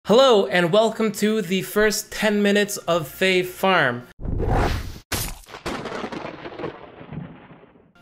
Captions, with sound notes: Hello and welcome to the first 10 minutes of Fae Farm. (whooshing) (crashing)